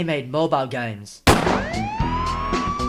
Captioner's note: gunshot